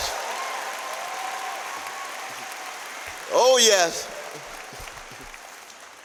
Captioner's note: applause